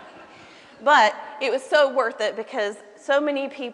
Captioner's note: laughter